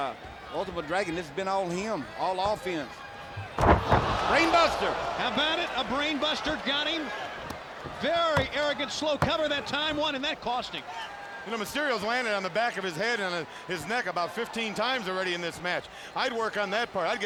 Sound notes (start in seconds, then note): 3.7 wrestlers thud